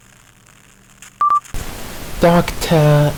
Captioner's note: recording plays